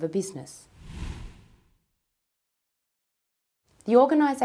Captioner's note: whooshing